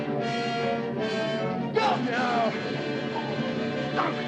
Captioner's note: groans